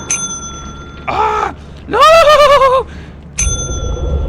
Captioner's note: screaming to make it angry